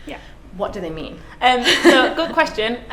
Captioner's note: laughs